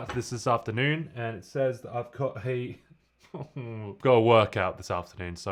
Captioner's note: groans